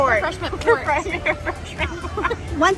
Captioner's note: laughter